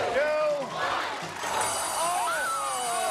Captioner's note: alarm rings; screams